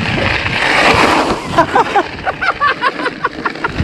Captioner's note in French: Bike sliding